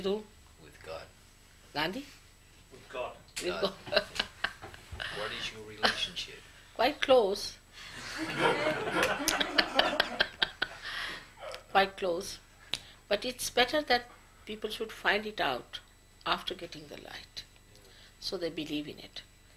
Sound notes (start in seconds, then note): 3.6 shri mataji laughs; 8.0 everyone laughs